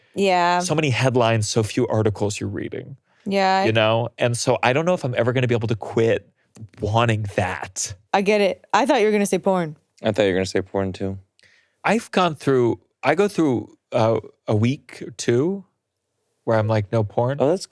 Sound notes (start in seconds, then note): none